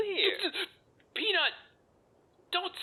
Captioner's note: stutters